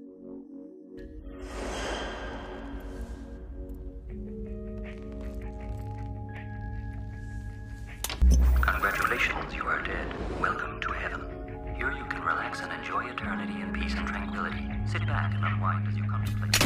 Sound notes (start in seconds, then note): 1.0 ominous sound fx